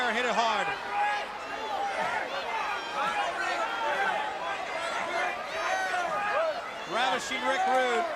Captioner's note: crowd chatter